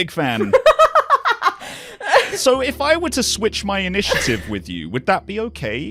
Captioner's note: laughter